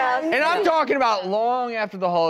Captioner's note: laughing